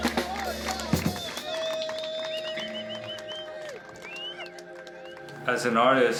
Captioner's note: the crowd is cheering and clapping